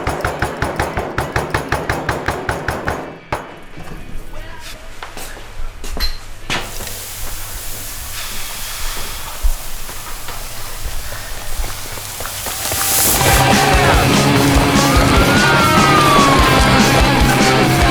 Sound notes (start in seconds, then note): 8.8 sizzling transforms into the... sound of running; 13.0 heavy rock music